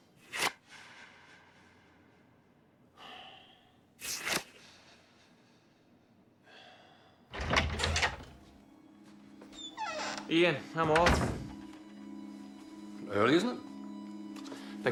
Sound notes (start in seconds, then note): 0.2 paper flicks; 3.1 Mack sighs; 4.2 paper flicks; 6.4 Mack sighs; 7.4 door opens